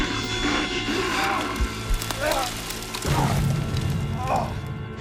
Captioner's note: bear growling; grunting